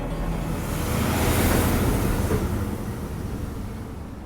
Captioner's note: engine rumbling